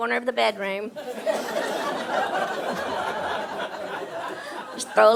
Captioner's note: audience laughing